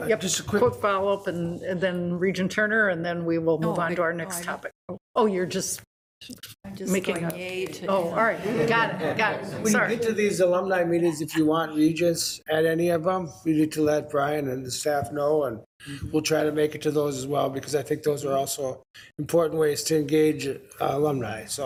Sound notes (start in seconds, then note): 8.2 group laughs